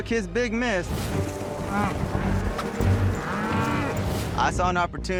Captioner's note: mooing